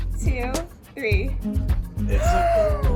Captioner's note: gasping